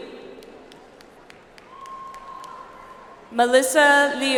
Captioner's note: audience applauds